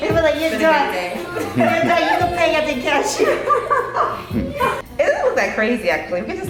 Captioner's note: laughing